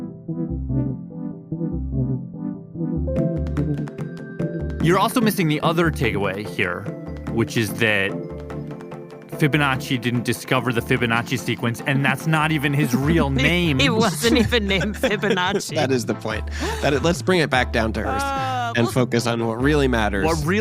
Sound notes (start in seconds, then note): 5.1 laughs